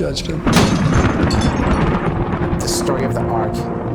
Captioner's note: thunder